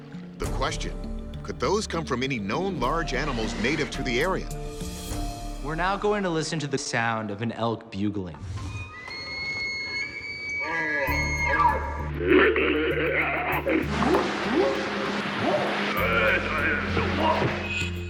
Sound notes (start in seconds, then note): 9.4 bugling; 10.7 growling; 13.5 whooping; 14.3 chatter